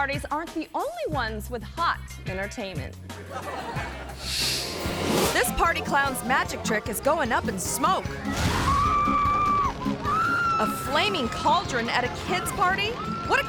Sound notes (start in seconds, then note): 3.2 audience laughs; 8.6 clown screaming